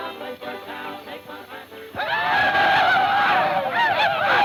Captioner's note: group ululating